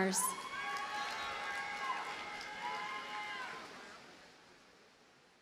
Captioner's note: audience cheers and applauds